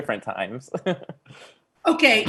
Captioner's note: laughs